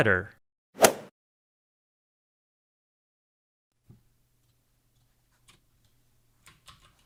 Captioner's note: golf swing sound effect